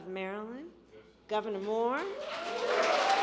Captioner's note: applause